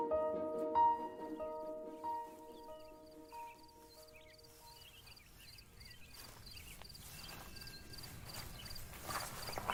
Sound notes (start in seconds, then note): 5.4 insects chirping